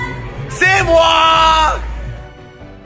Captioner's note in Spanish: grito